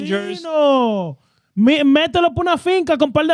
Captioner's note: speaking Foreign Language